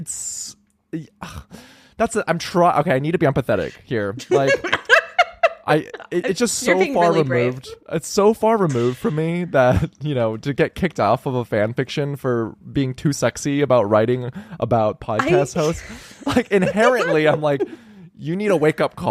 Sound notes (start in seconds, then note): 4.2 laughing